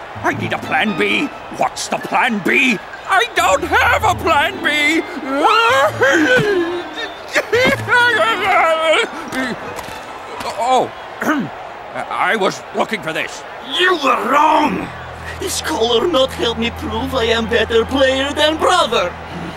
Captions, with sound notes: I need a plan B! What's the plan B? I don't have a plan B! (crying) Oh. (clears throat) I was looking for this. - You were wrong. This collar not help me prove I am better player than brother.